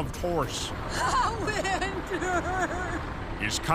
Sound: Cardinal, sobbing

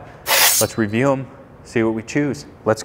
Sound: knives clanging

